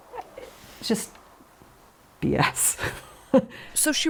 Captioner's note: chuckles